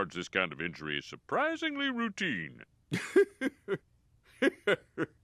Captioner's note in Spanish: risas